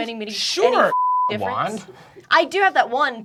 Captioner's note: beeping